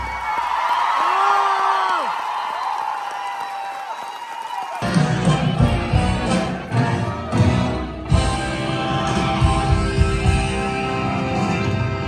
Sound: applause

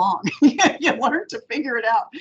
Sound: laughing

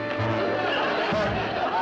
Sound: honks

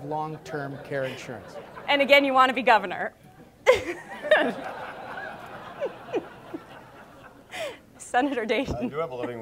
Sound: audience laughs; audience laughs

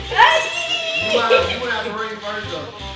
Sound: cheering

